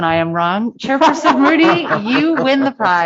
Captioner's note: laughter